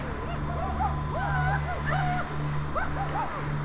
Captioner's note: indians whooping